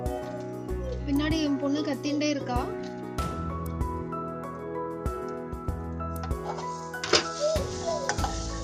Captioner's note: my daughter is screaming behind